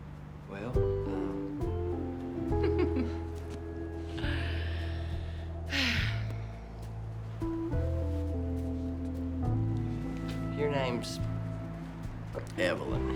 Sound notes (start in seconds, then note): 2.6 giggles; 5.5 sighs